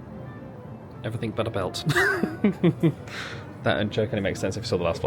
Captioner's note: laughing